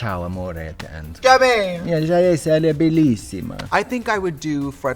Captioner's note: speaking in foreign language